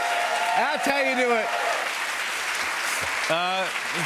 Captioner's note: cheers and applause